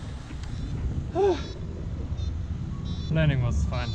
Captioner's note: sigh